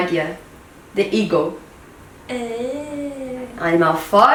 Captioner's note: speaks in English